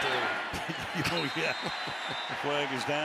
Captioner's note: laughter